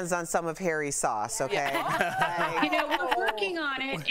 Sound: laughter

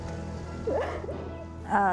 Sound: crying

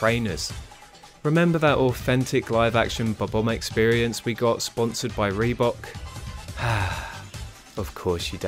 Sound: sigh

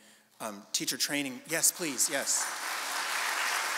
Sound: audience applauding

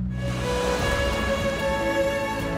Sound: waves crashing

